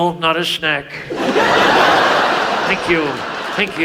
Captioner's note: audience laughs